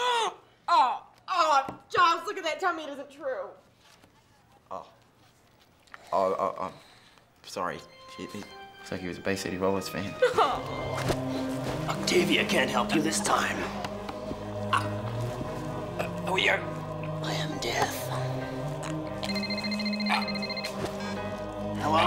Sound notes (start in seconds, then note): 0.2 gasps; 14.9 choking noises; 19.2 phone ringing